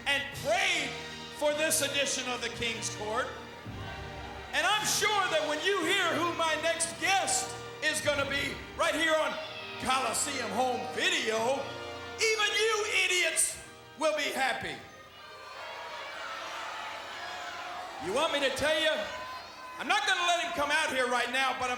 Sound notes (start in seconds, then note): 14.8 crowd boos